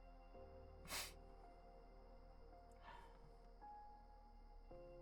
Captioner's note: sniffing